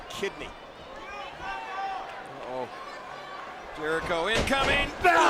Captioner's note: crowd murmuring